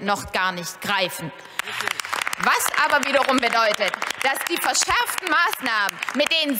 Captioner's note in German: Beifall bei der FDP und der AfD